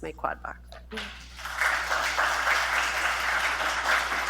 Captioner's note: applause